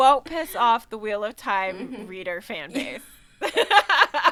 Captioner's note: laughing